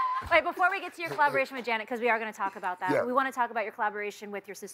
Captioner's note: laughing